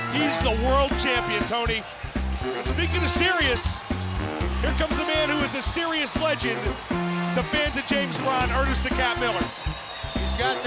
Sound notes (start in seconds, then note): 6.6 crowd cheering